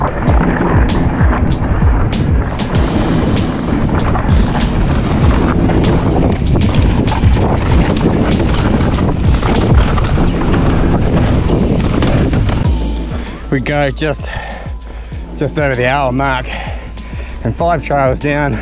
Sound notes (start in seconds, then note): 0.2 trap music plays; 3.2 bike clatters